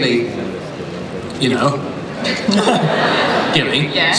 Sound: laughter

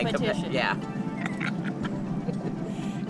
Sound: laughs

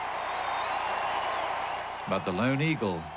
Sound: cheering

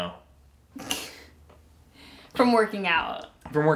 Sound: laughs

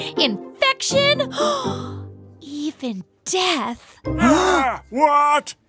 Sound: gasp; gasp

